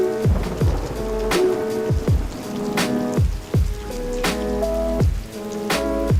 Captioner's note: rain sounds